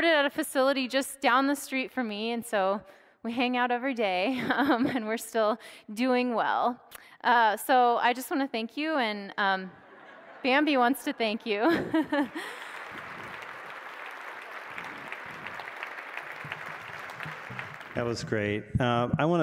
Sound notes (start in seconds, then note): 11.2 audience laughing; 11.6 audience applauding